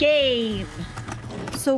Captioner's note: sfx: VHS ejecting